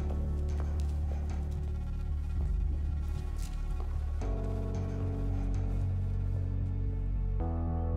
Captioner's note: footsteps; somber Music